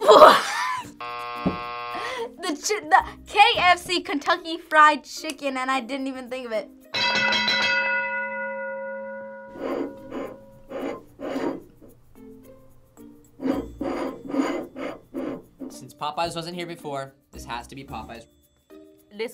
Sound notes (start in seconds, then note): 0.1 laughs; 1.0 buzzer rings; 6.9 bell rings